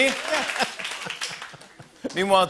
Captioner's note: laughs